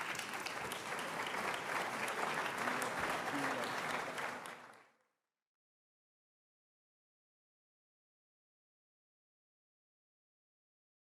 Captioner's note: applause